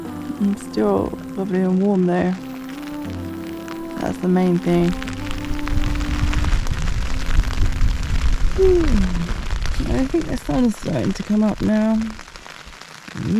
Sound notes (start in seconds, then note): 5.9 rain; 8.6 yawn